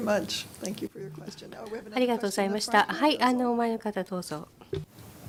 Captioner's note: japanese